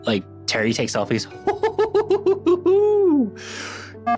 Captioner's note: laughs